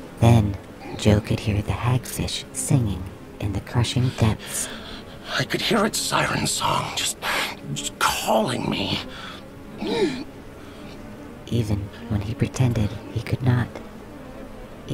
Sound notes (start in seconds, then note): 9.1 a sharp inhale; 9.1 calling